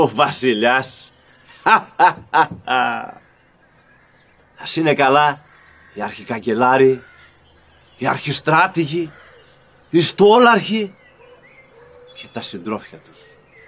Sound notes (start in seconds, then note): 1.6 laughter